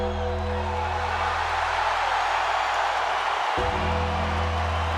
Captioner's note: bell tolls; crowd cheers